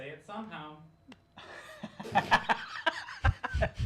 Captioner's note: laughs